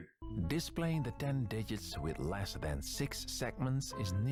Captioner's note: soothing Dutch voice